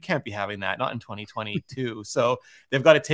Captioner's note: chuckles